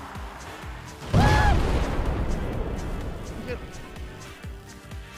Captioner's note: explosion